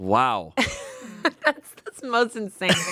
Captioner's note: Amanda laughs